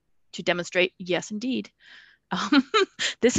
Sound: laughs

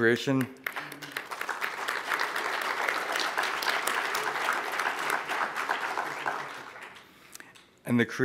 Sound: applause

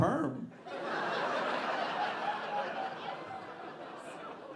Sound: audience laughing

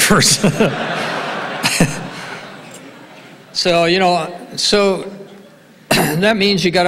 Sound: laughs

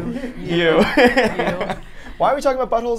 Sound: laughs

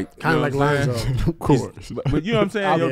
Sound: laughs

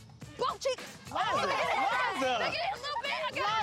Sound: kids laugh

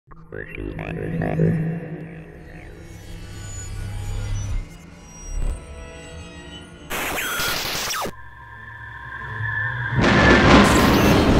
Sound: sound Effects

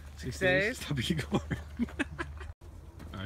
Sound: laughs

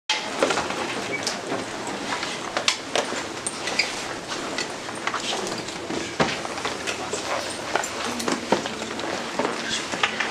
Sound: background chatter

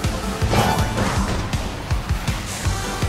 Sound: jump sound

